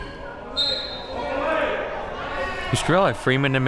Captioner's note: whistle blows